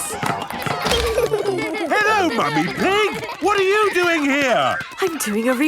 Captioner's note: laughter